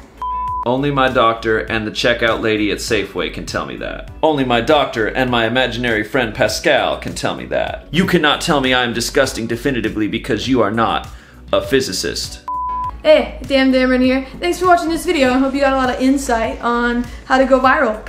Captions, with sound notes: It's fine. - Only my doctor and the checkout lady at Safeway can tell me that. Only my doctor and my imaginary friend, Pascal, can tell me that. You can not tell me I am disgusting definitively because you are not a physicist. (screen beeps) - Hey, Damdameron here. Thanks for watching this video. I hope you got a lot of insight on how to go viral.